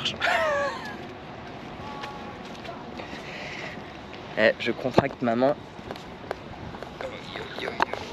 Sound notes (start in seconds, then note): 3.2 laughing